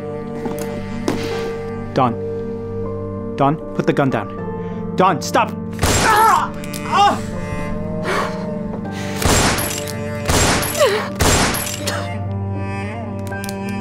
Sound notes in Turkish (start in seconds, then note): 9.2 Silah sesleri